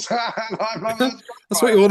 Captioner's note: laughs